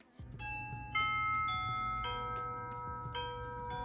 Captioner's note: doorbell chiming